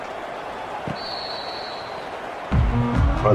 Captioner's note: whistle blowing